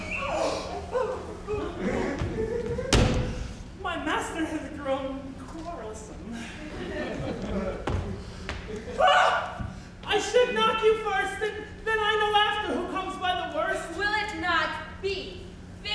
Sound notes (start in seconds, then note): 0.1 Grumio gasps; 6.4 audience laughs; 9.3 cries out